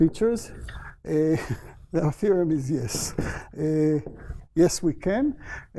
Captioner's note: laughs